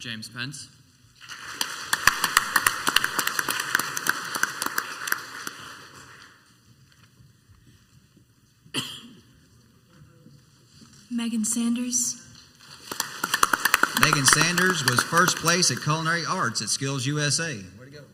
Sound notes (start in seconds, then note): 1.2 crowd applauds; 8.7 person coughs once; 12.6 crowd applauds